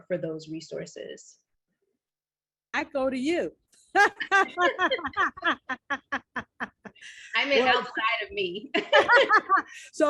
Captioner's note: laughter